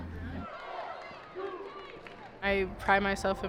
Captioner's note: spectators cheering